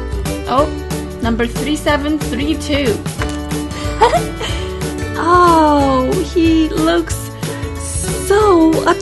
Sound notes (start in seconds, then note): 3.8 laugh